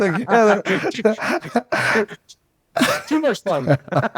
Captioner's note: both laughing